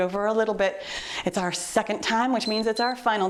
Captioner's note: timer beeps